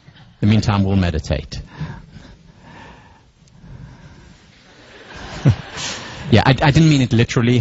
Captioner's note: laugh